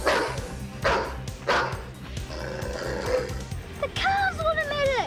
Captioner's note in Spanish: el perro ladra